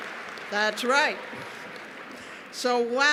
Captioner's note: cheers and applause